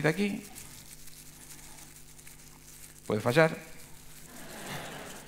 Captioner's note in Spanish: Risas